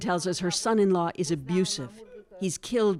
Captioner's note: speaking Foreign Language